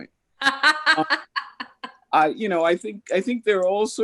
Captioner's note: laughing